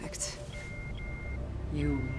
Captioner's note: alarm